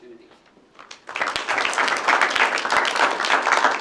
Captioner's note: applause